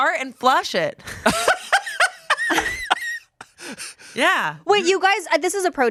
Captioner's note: laughs